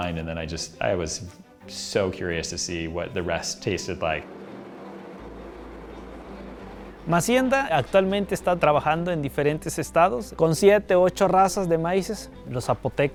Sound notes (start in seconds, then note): 7.9 speaking in foreign language